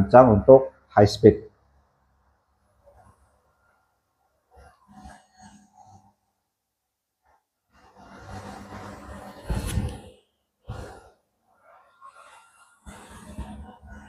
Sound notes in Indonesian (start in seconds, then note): 3.1 printing